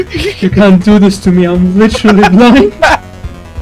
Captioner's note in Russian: хихикает на заднем плане